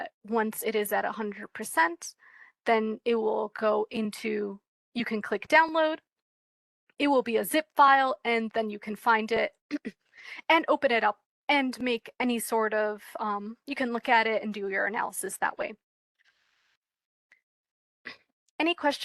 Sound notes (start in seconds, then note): 9.7 cough